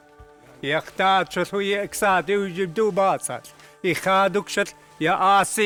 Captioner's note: speaking in a native language